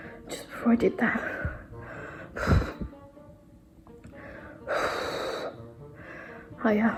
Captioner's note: exhales sharply